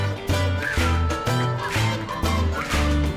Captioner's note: whistles